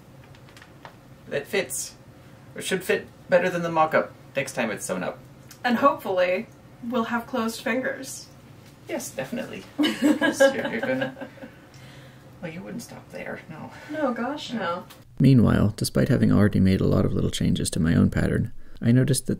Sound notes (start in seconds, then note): 9.8 laughing